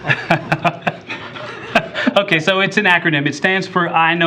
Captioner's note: laughter